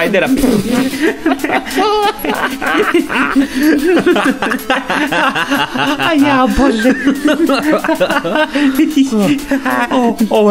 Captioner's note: they laugh not believing what's happening